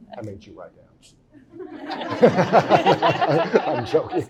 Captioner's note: laughing